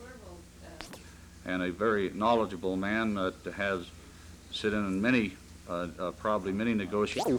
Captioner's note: camera noise